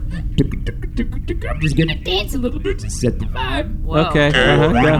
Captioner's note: singing; voice glitching up